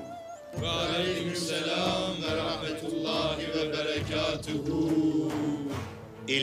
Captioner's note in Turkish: Hep bir ağızdan